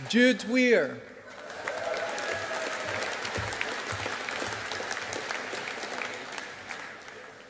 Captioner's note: audience applauding